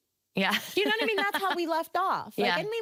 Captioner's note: laughing